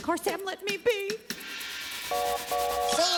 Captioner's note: train horn blowing